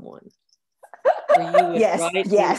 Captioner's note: laughs